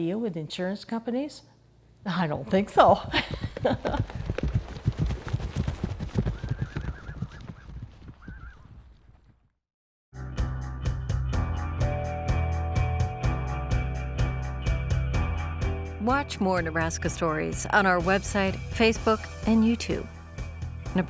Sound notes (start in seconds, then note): 2.8 horses galloping and neighing; 10.5 upbeat music